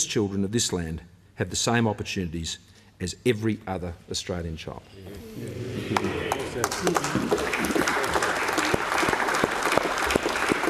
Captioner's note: applause